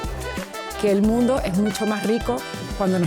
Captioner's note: speaking in Spanish